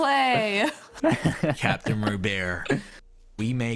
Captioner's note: laughs